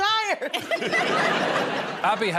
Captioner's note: laughter